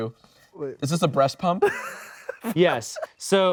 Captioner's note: laughing